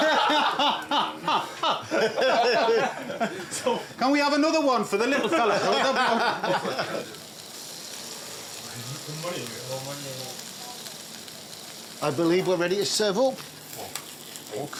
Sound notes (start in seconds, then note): 0.0 laughter; 7.0 laughter; 8.2 indistinct chattering; 8.2 sizzles